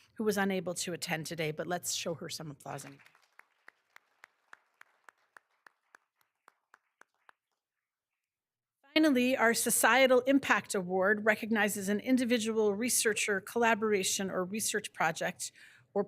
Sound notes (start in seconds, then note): 2.7 all applauding